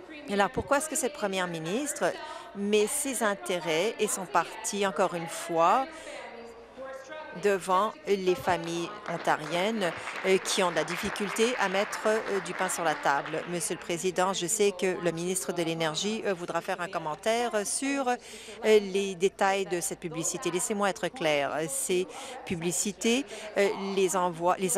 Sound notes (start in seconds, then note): 14.1 some Applause